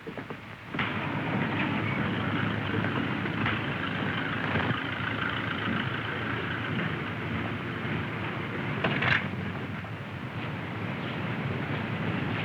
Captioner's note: car engine